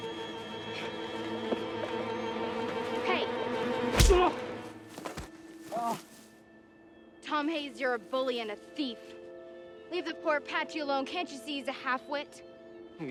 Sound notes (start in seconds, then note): 3.9 boy groans; 5.2 boy moans